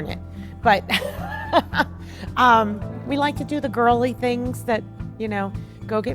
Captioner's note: laughing